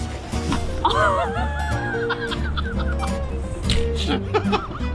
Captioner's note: everyone dies from laughter